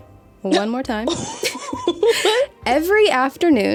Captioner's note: wheezes